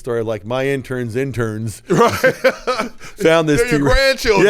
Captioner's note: laughing